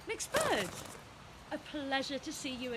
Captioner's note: wings fluttering